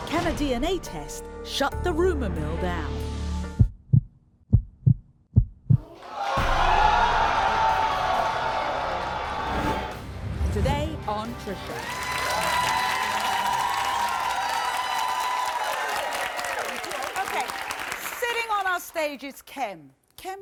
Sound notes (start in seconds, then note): 4.5 deep thumping; 5.9 audience yelling; 11.6 audience cheering